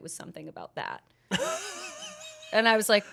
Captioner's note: laughs